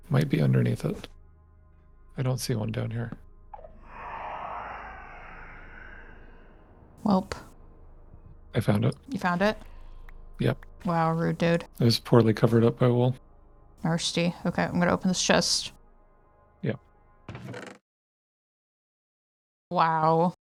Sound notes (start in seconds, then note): 3.6 shrieker noise; 17.5 spooky music stops